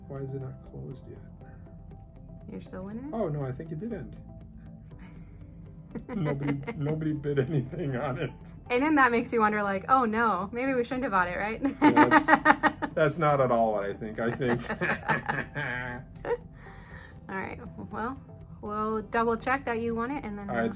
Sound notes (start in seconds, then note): 5.9 laughing; 15.8 laughs